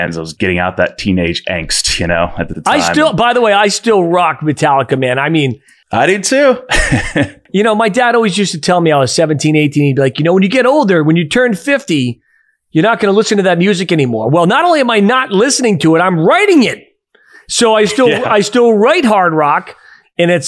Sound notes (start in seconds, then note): 6.7 laughs